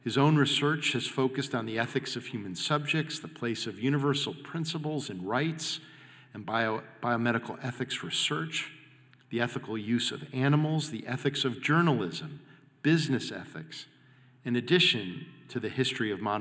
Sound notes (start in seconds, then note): none